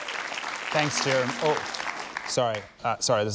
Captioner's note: cheering, applause; cell phone rings